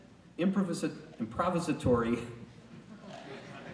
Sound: stumbling on words

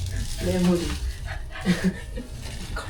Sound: panting

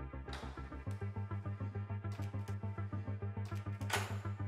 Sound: door rattling

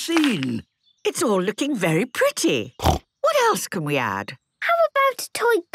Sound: snorting

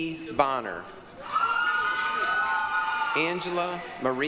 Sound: applause, cheering

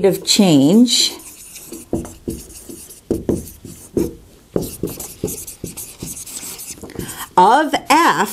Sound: sound of writing

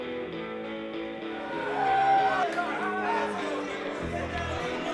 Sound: yelling

